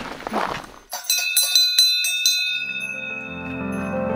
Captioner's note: bell ringing